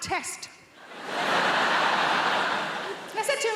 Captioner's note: audience laughing